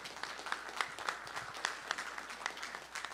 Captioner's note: applause